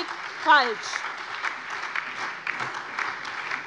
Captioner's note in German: Beifall SPD, Die LINKE und vereinzelt Freie Demokraten